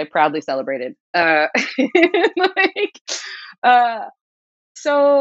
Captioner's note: laughter